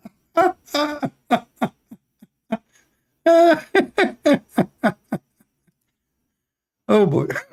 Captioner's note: Ketawa